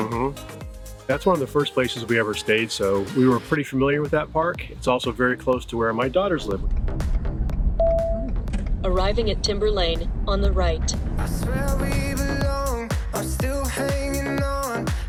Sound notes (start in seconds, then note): 8.0 car dinging